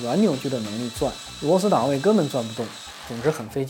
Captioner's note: drilling The hole gear has no clutch